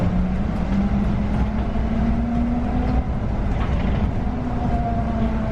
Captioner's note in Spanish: sonido de aceleración y frenado